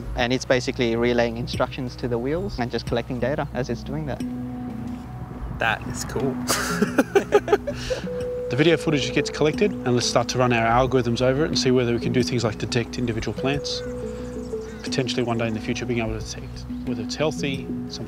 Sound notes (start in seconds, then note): 6.4 both chuckle